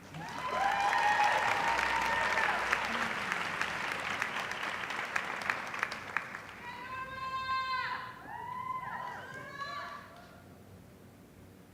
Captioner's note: applause